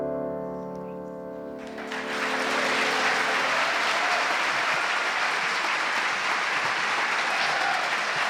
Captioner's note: gentle piano music; audience applauding